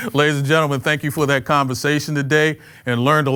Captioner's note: laughs